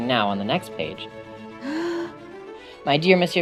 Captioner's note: inhales